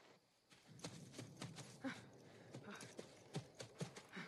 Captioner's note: panting